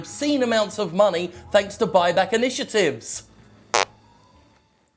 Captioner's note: fart noise